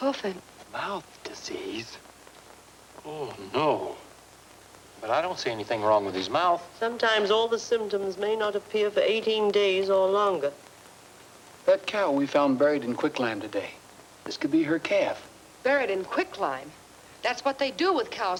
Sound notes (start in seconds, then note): none